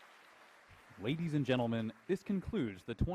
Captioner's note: voiceover